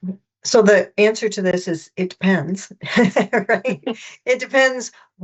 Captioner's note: laughs